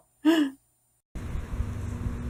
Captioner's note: gasp